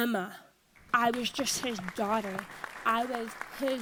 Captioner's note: audience applauds